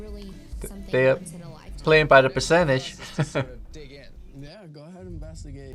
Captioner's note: laughs